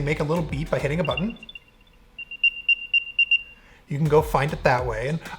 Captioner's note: AirTag beeps